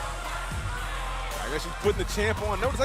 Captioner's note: fans chanting